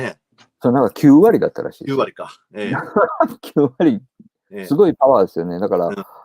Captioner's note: laughs